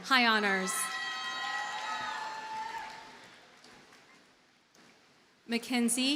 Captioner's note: audience cheers and applauds